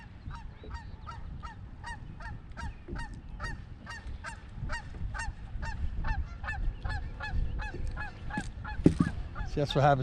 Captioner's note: gulls squawking